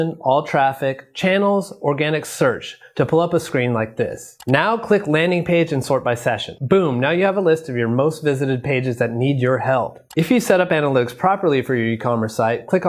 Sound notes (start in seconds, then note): 4.3 mouse clicks